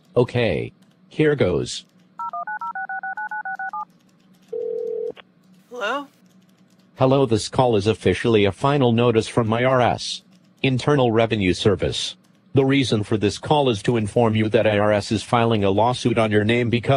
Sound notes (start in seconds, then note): 2.2 phone dialing; 5.7 on phone